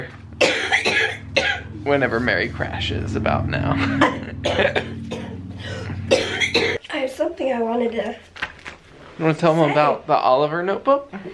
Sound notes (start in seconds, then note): 0.4 coughing; 3.6 laughing; 3.8 coughing